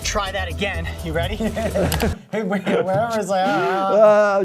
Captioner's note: both laughing